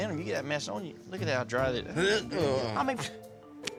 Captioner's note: dry heaves